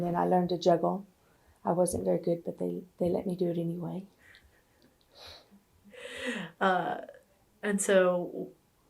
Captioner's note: laughter